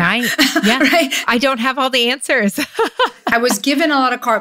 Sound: laughs

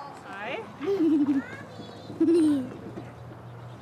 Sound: giggling

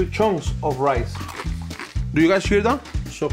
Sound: rice crunching

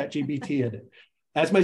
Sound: laugh

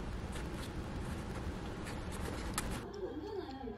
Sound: laughing

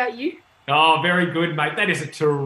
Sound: siren wailing

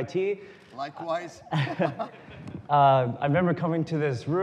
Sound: laughter

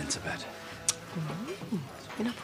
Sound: Bernice tsks

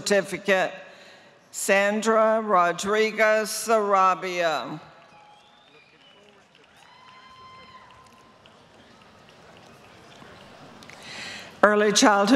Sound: applause

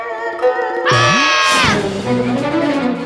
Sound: screaming

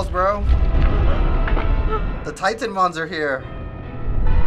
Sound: Shrek gasping

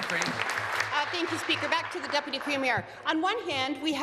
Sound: applause

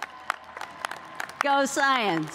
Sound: cheers and applause

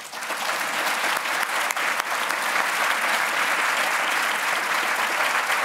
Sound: applause

